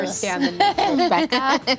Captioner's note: laughing